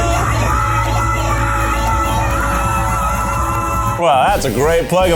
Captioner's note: audience cheers